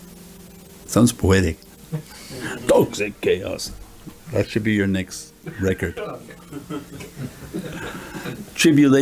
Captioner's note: everyone laughs